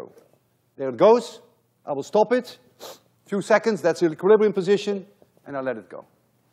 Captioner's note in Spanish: olfatea